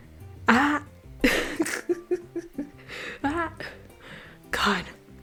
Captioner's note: laughter